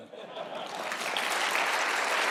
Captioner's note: laughter; applause